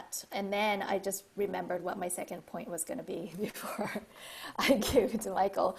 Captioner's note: laugh